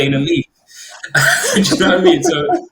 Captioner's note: they laugh